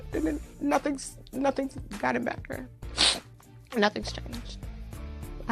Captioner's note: sniffle